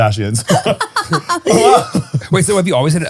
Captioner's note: all laughing